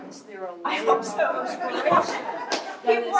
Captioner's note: laughter